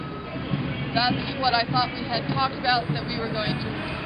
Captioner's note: voiceover